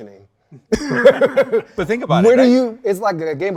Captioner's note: guests laughing